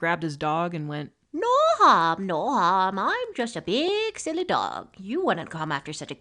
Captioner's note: horrible old lady voice